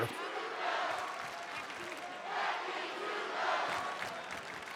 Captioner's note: audience cheering